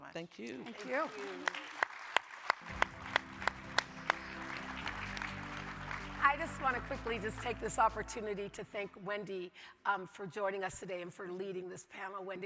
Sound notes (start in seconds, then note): 2.2 audience applauding